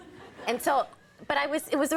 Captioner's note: audience laughing